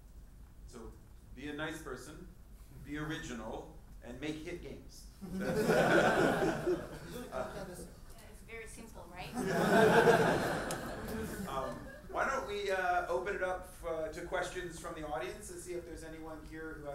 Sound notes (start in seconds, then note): 5.3 audience laughs; 7.9 speaking in foreign language; 9.3 audience laughs